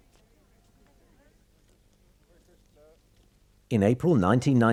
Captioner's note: crowd